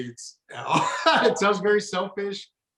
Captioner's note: chuckles